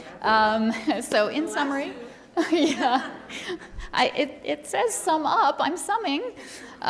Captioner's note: laughing